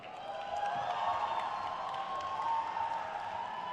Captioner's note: crowd cheers